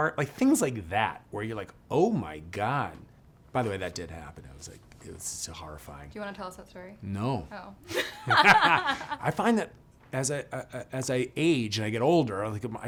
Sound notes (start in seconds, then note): 7.9 both laughing